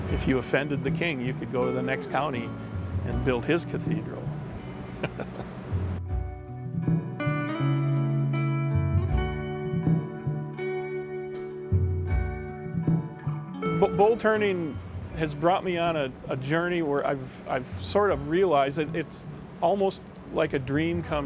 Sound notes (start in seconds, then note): 4.8 laughs; 7.4 soft rock music